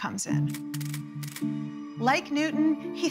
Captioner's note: camera clicking